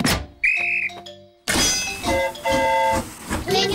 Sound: train horn toots; blows whistle

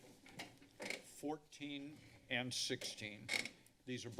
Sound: chairs squeaking

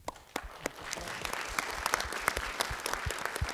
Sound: applause

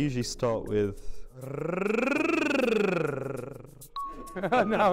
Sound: vocal trill

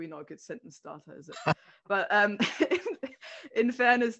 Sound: laughs

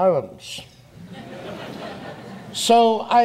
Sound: audience laughs

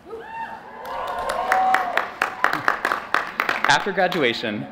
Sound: cheering and applause

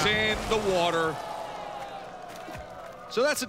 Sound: crowd groans

